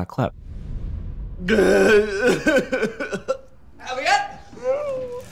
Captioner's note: elliot goss sobbing; elliot whimpering